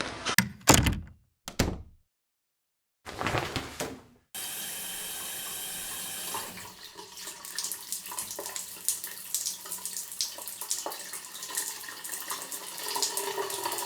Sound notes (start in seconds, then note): 0.3 door closing; 3.1 shower curtains moving; 4.3 shower starting